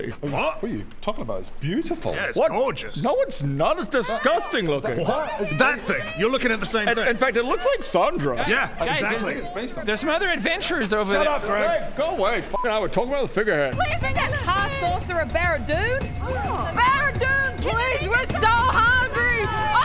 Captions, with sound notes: What? What you talking about? It's beautiful Yeah, it's gorgeous No it's not! It's disgusting looking *distant shouts of "over here!"* that thing, you're looking at the same thing? In fact it looks like Sandra - yeah, exactly - Guys, guys there's it's based on her There's some other adventurers over there shut up Greg Greg, go away, f***ing hell we're talking about the figurehead - Isn't that high sorcerer Baradun? - Please bring us food! ah Baradun! - Please! We're so hungry! - Can you get us some food??